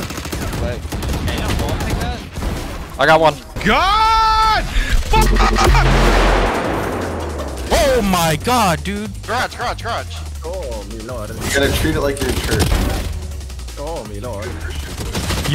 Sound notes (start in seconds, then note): 5.4 gun shots